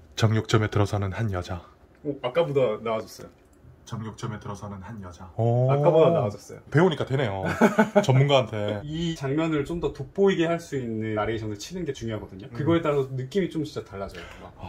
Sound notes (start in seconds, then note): 3.8 recorded narration